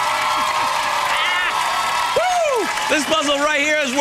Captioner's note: cheering